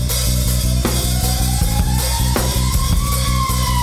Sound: car siren

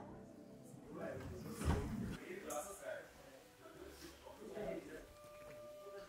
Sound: men chatting indistinctly

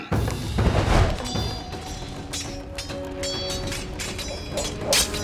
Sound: clanking

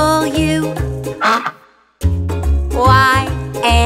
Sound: duck quacks

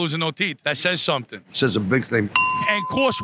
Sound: ding

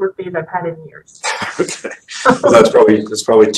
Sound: both laugh

